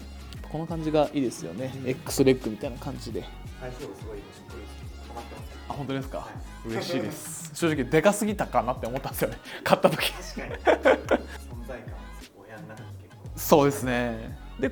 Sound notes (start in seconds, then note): 8.4 laughs